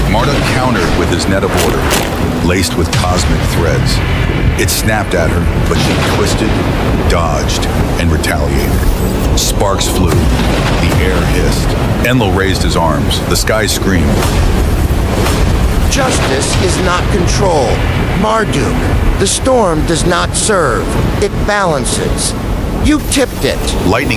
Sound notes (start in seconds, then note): 15.7 booming